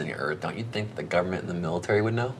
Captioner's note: none